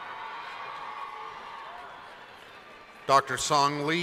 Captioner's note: cheering